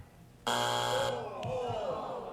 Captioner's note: buzzer